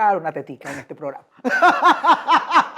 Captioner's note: evil laugh